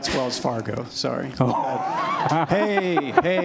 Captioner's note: laughter